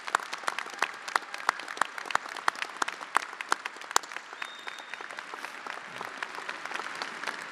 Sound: attendees applauding

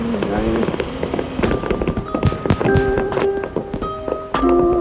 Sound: fireworks popping

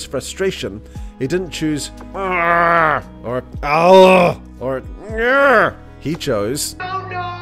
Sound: exasperated groan

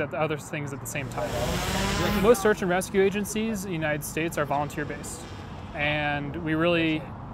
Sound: drone whirring

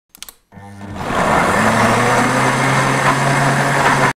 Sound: brrrrrrrrrr

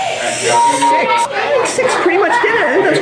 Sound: beeping

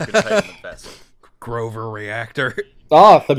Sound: laughter

